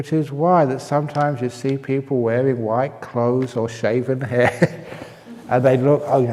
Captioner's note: laughter